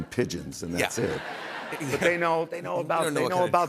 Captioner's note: laughter